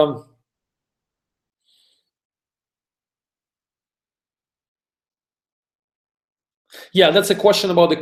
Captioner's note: pause